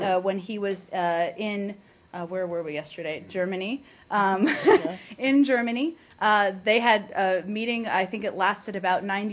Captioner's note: laughter